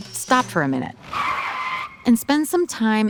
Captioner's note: tires screeching